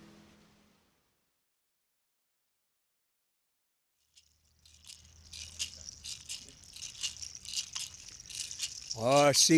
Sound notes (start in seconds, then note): 4.1 rattle rattling